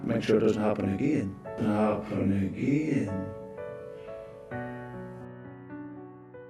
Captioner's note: audio ominously echoing